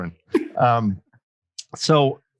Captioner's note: chuckles